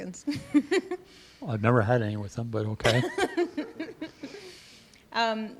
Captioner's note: laughter